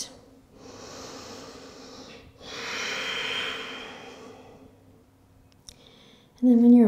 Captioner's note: heavy breathing